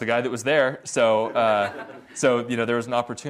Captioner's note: audience laughs